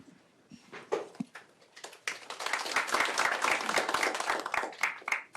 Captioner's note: applause